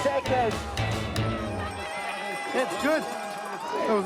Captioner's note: all cheer